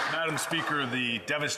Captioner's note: applause